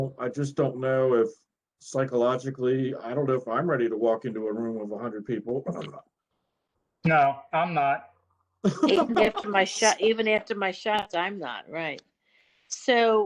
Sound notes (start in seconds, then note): 8.6 laughter